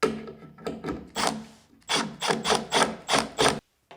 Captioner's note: drill whirring